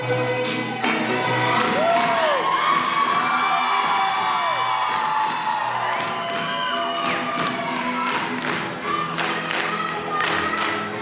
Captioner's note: applause